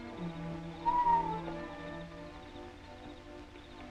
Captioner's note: whistling call